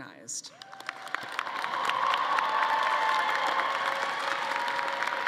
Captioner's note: audience applauding